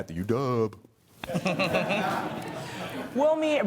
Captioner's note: audience laughing